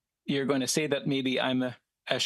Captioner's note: speaking French